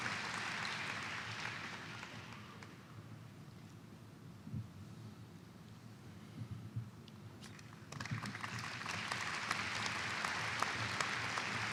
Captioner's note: applause